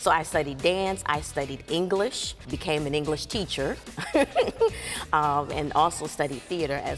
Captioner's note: chuckles